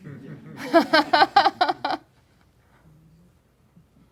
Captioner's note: laughing